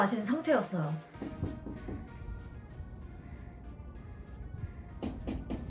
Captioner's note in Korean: 문 두드리는 소리